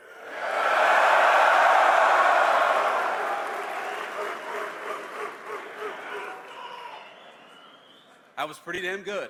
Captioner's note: cheers